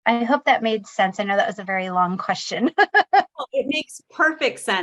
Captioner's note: laughing